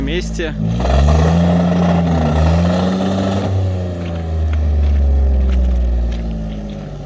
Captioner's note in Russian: Звук рёва мотора